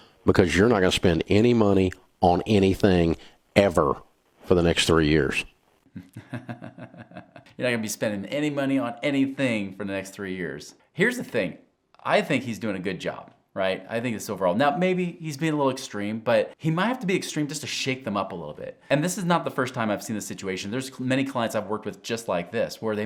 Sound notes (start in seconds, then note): 5.9 laughs